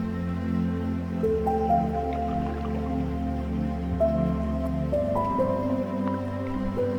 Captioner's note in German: Wasserspritzen